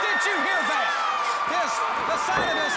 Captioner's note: crowd cheering